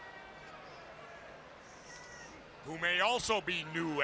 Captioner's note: crowd cheering